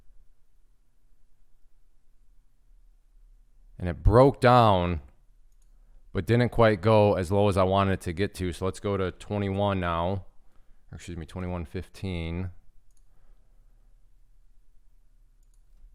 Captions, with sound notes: And it broke down, but didn't quite go as low as I wanted it to get to. So let's go to 21 now, excuse me, 21.15. (clicking)